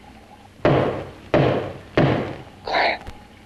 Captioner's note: door banging